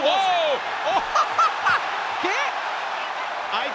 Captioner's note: laugh